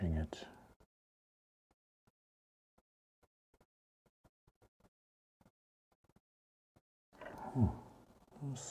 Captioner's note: silence